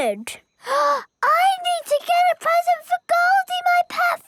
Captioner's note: gasps